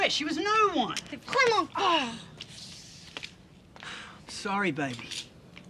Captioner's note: speaking in foreign language